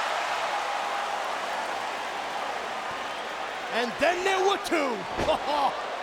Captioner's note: applause; laugh